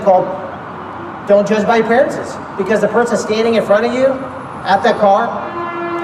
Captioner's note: loud honking